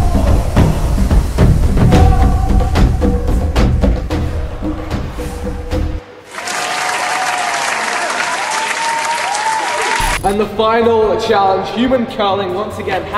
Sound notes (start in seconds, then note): 6.2 cheering; 6.3 claps